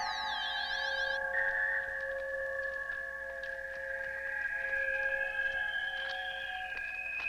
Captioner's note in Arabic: موسيقى غريبة; موسيقى مخيفة; خطوات قوية